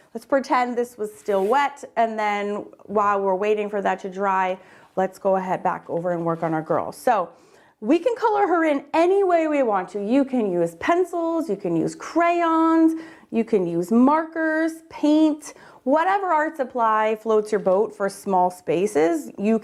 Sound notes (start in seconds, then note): none